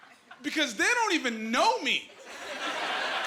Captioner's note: laughing